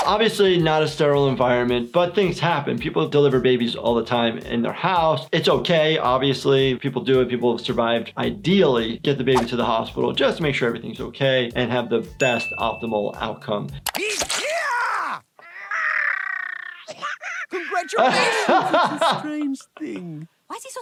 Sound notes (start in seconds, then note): 15.3 baby cries